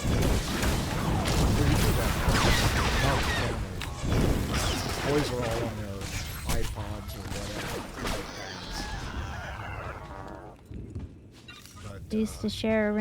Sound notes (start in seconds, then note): 0.6 gun shots; 9.4 gun shots